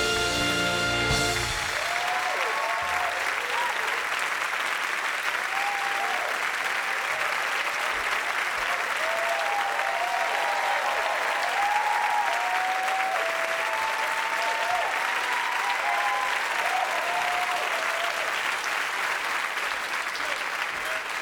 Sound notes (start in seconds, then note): 0.0 playing piano; 3.8 audience applauding